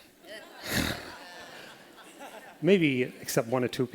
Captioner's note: laughter